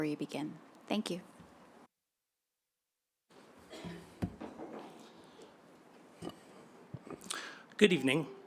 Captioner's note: silence